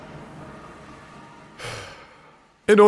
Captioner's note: phew